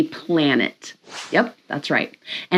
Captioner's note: air whooshing